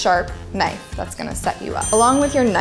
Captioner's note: ding